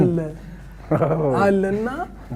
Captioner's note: laughter